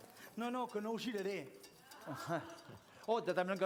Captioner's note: non-english speech